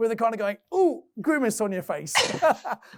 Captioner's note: groans